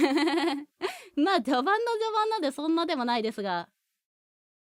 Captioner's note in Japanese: 笑い